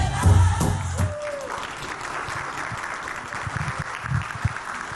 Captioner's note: audience clapping